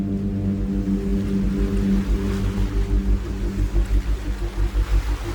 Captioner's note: waves crashing